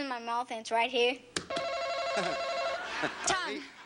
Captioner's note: buzzer buzzes